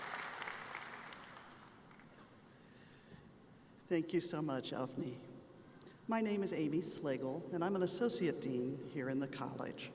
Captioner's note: applause